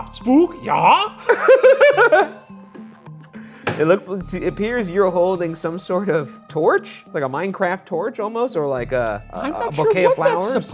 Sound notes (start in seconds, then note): 1.2 pair laughs